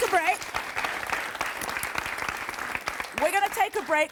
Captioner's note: applause